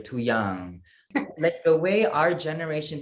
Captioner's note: laugh